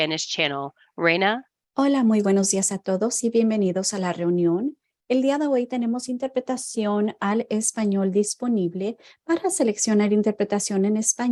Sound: Spanish

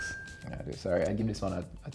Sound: bell dings

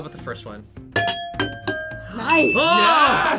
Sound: glasses chiming

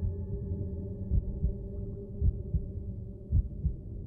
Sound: heartbeat thumping

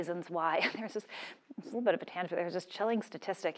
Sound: laugh

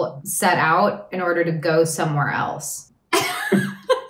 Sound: laughs

